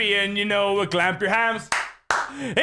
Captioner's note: clap Clap